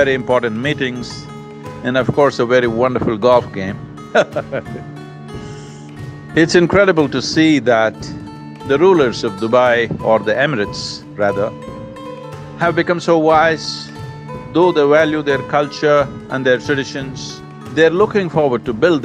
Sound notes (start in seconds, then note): 4.1 laughs